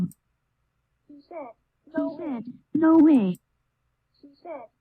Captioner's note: computer voice